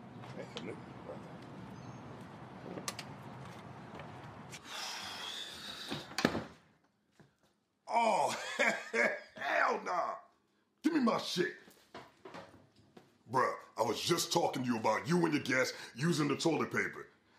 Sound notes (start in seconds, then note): 0.1 Tony mumbles unhappily; 4.6 KP sighs; 6.0 door thuds